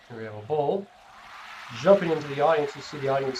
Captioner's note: cheering